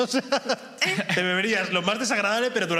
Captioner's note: laughs